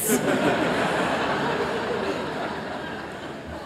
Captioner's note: laughter